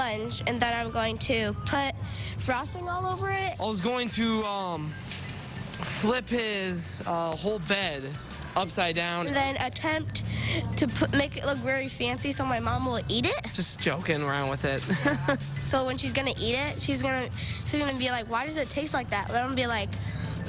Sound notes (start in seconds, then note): 14.8 laughte